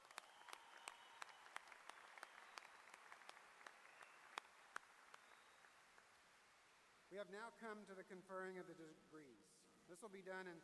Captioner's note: applause